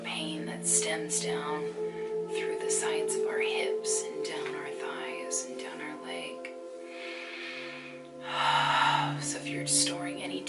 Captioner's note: breathes